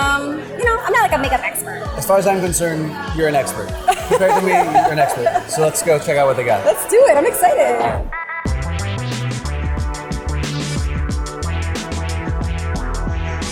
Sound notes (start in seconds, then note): 3.8 laughs; 8.5 upbeat techno music